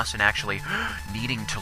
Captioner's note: gasp